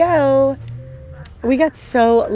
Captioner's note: beeping sound